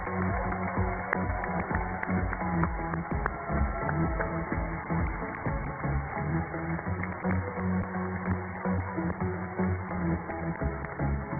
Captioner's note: cheers and applause